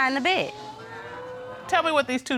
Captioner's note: audience exclaims